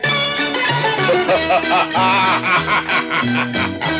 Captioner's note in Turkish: Kahkahalar